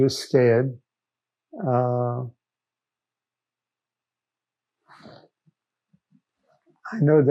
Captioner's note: pauses 6 seconds